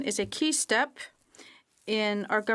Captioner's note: speaking French